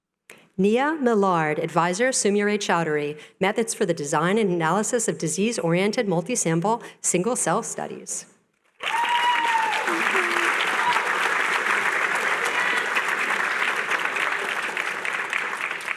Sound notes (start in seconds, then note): 8.8 cheering